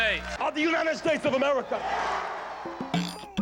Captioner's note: cheering